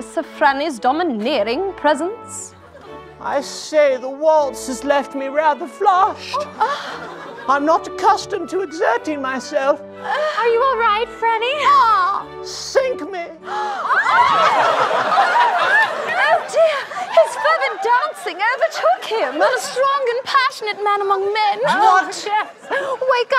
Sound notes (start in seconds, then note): 13.9 gasps